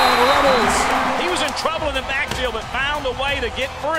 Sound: voiceover

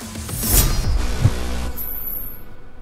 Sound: gentle, metallic whooshing sound; sword slicing

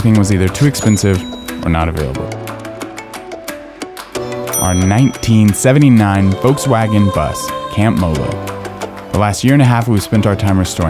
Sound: ding

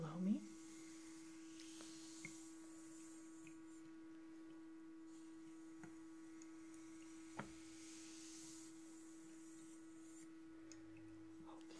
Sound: water Trickling

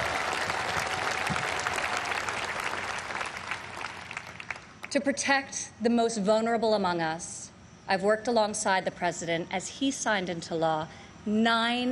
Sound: applause

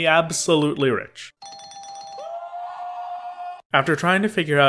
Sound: bell ringing, man whooping

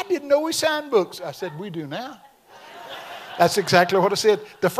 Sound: audience laughs

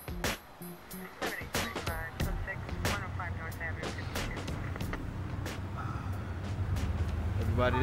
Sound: police radio

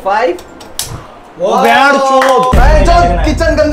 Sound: audible Cheer

